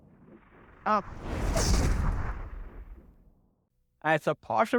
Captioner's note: air whooshes